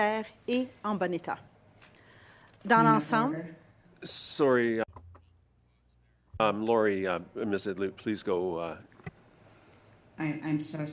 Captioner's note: speaking French